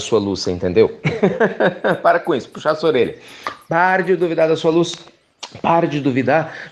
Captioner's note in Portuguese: Risos